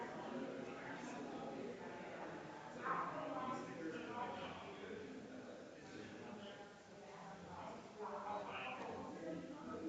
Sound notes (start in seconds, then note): 3.6 people chattering distantly continues